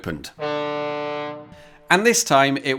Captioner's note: honk